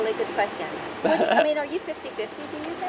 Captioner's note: laughter